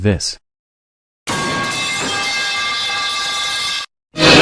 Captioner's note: metal Pipe Sound